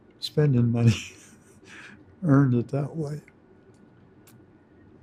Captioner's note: laughs